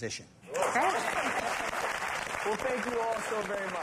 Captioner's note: applause